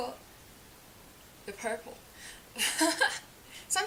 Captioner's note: laughs